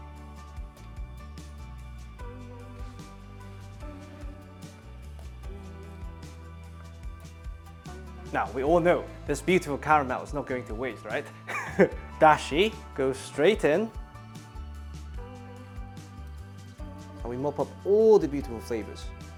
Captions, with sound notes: [upbeat soft music] Now, we all know this beautiful caramel is not going to waste, right? [chuckles] Dashi goes straight in. And we mop up all the beautiful flavours.